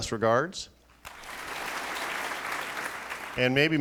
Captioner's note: applauding